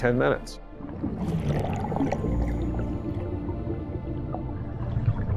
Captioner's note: water swooshing